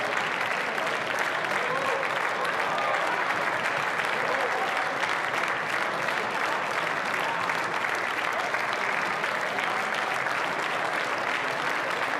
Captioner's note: cheers & Applause